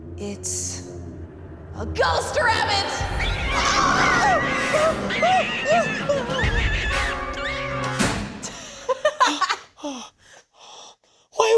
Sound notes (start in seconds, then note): 3.5 dramatic orchestral music; 4.8 rabbit screeches; 6.2 screams; 8.8 laughs